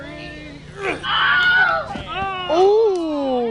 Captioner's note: screams